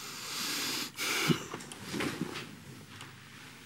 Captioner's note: inhales deeply